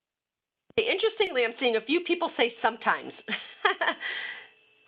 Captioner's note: laughs